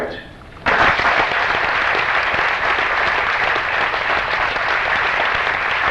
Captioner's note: applause